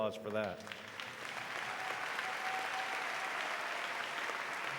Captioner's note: audience applauding